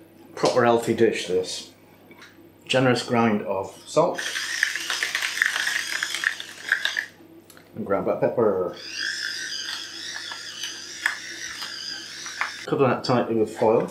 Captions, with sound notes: Proper healthy dish, this. Generous grind of salt. [ ELECTRIC GRINDIN ] And ground black pepper. Cover that tightly with foil,